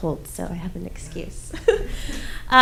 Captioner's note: laughs